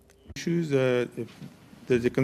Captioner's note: speaking in French